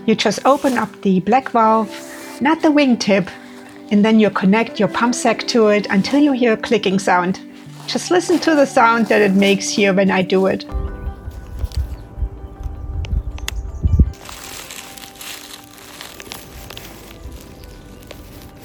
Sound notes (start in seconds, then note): 13.4 clicking sound; 14.1 rustling